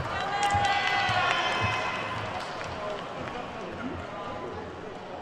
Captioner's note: attendees whooping and clapping